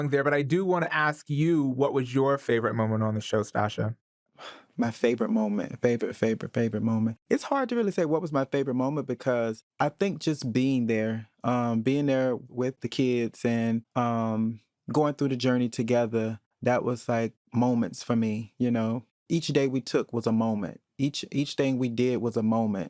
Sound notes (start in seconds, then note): 4.4 sighs